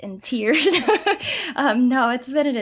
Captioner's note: laughs